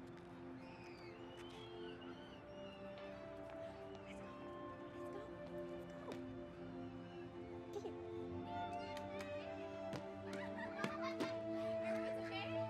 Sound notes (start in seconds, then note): 6.7 children chattering